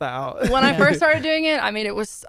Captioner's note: laughs